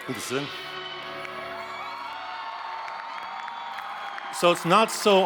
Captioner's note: audience cheers; gentle classical music